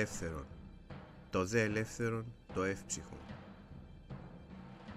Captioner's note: ancient Greek